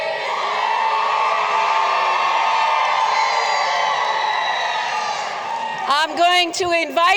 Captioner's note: cheering